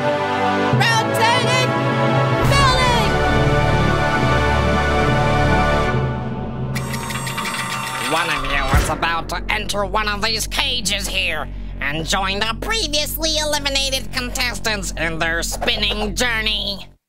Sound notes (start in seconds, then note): 5.2 epic music; 6.7 mechanic whiring sound; 8.5 crashing sound